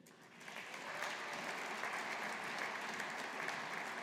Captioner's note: audience applauding